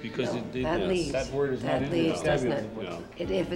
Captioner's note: group voices agreement